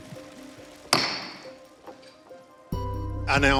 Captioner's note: gavel bangs